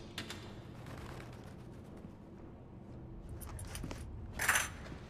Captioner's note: handcuffs clatter